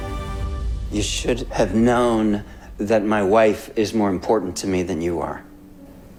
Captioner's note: voiceover